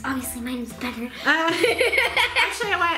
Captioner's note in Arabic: يضحك